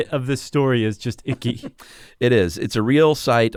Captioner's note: laughs